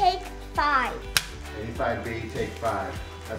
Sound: clapperboard clicks

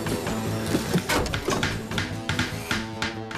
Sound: hammering

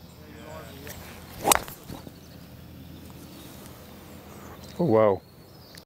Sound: golf club smacks

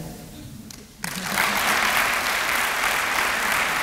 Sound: applause

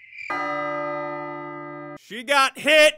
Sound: clock chimes

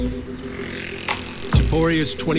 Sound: scooter engine buzzing

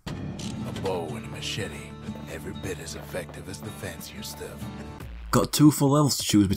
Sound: in-game audio

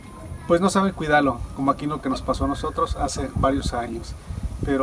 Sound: speaking Spanish

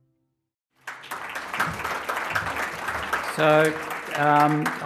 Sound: applause

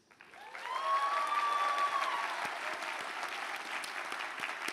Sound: cheers, applause

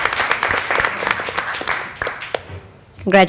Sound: applause

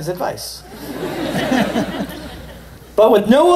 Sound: laughter

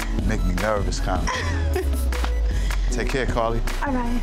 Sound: giggles

